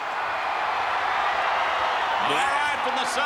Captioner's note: crowd cheering